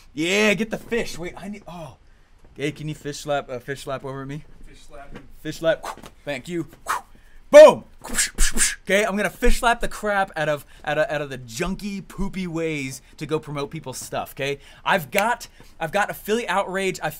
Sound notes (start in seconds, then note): 8.1 slapping sound effect